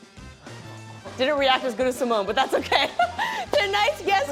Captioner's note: laughs